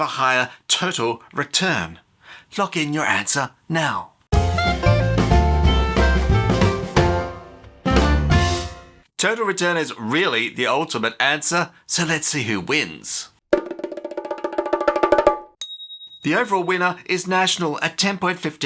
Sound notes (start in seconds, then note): 13.5 drumming; 15.6 ding